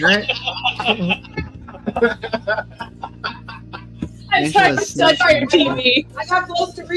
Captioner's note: more laughing